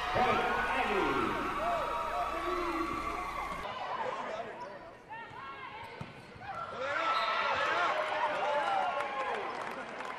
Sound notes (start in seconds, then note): 6.5 cheering